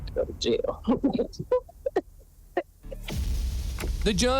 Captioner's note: giggling